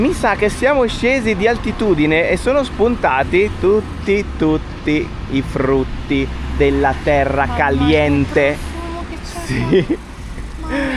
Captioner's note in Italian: risate